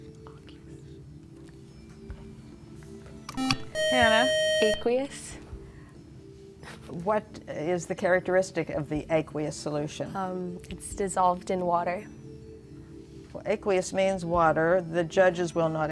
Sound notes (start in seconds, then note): 3.4 beep